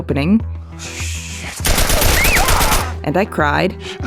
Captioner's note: gunfire